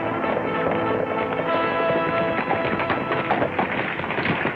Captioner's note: lively trumpet music; horses galloping